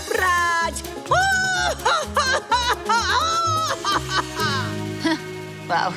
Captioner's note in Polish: śmieje się